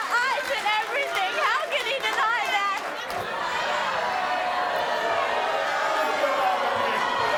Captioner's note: audience boos